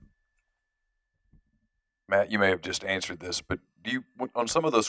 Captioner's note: voiceover